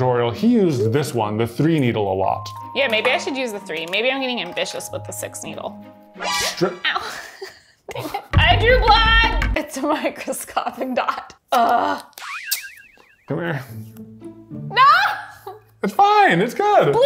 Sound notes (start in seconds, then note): 12.3 springing noise